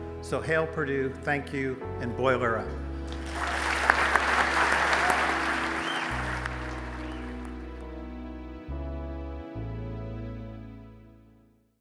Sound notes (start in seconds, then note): 3.0 audience applauding; 3.6 smooth ambient music